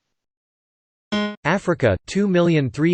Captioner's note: alert noise